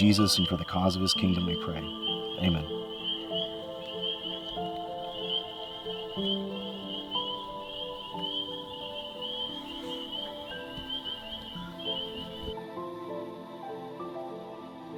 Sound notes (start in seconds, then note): 3.4 frogs peeping; 5.6 relaxing music